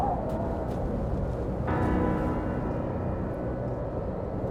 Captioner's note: howling wind